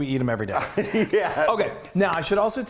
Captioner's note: laughing